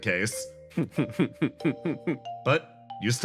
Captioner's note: chuckle